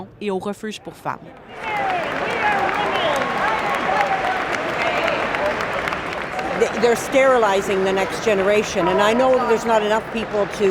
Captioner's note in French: applaudissements